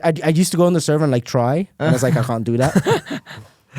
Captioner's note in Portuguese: risos